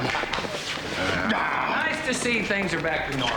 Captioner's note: both growl humorously